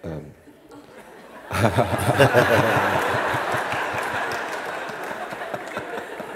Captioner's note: laughter